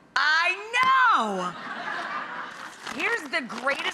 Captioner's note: audience laughing